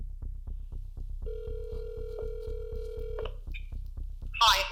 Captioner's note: phone ringing